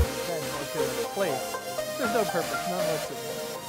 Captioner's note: speaking faintly